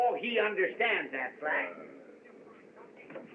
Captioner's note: groans